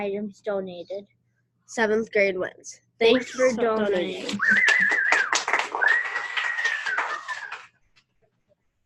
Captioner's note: clapping and whistling